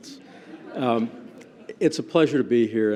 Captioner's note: laughter